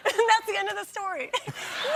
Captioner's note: laughter